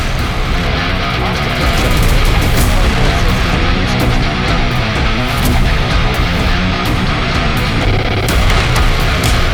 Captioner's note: gunshots